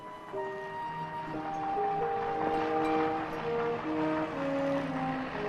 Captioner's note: distant engines chugging